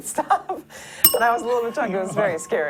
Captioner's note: bell rings